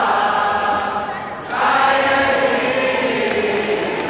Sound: cheering

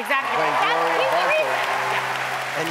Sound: cheering

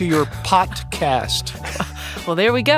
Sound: laughs

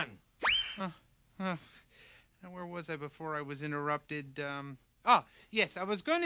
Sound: sighs

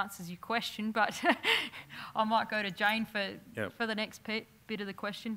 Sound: laugh

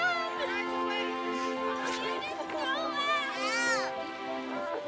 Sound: encouraging Chants; inspirational music swells

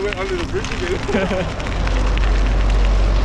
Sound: laughs

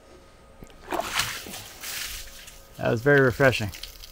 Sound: water sloshing

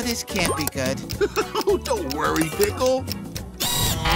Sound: chuckles; buzzing

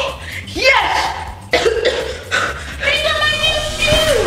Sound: coughing

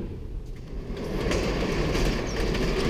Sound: door closing

